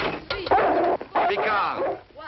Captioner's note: dog barking